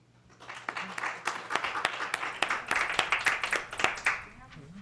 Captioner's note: applause